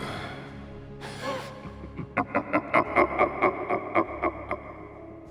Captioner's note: evil laughing